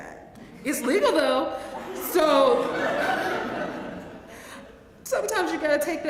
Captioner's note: laugh